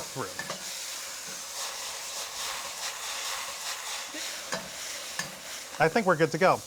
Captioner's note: sizzling